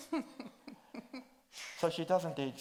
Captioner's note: chuckles